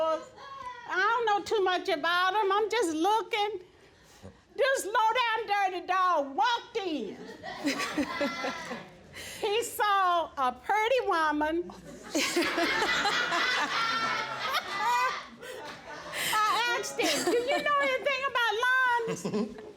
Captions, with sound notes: and I don't know too much about 'em, I'm just looking. This low-down dirty dog walked in... (LAUGHTER) He saw a pretty woman... (ALL LAUGHING) I asked him, "Do you know anything about lawns?